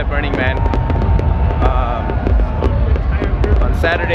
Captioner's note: explosions, cheering